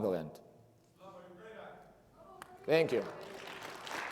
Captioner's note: attendee speaking in foreign language; everybody applauds